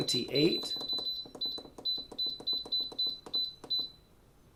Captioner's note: instapot beeps